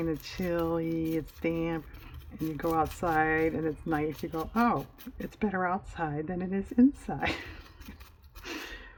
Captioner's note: laughs